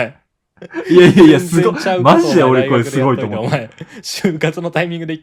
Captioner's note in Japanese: 笑い